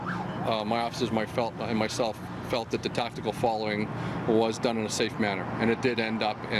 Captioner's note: siren